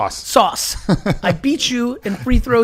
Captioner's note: laughs